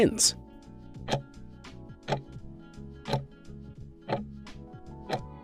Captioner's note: timer ticking